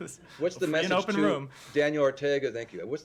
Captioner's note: laughter